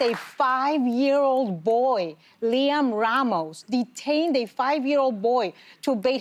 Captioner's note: applause